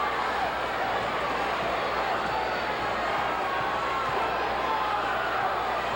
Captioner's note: audience cheering continues